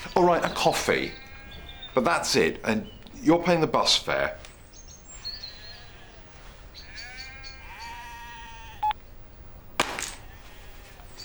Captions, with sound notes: All right, a coffee, but that's it. And you're paying the bus fare. (SHEEP BLEATING)